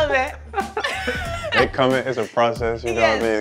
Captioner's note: laughter